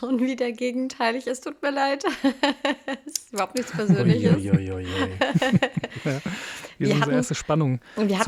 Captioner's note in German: gelächter